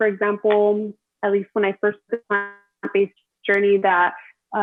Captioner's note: audio distorts